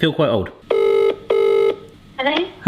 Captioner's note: phone ringing